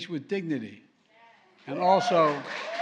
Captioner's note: applause